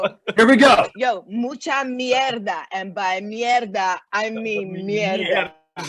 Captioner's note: fast speaking Spanish